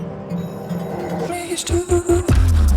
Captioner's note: bell ringing; dynamic music